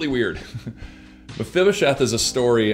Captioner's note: laughs